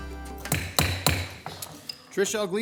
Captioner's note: gavel banging